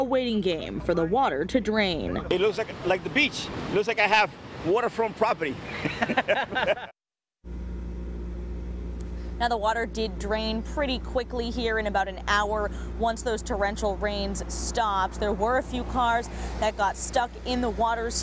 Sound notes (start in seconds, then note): 5.7 laughs